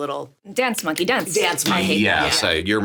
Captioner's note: Sarah clapping